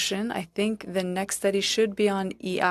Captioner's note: speaking French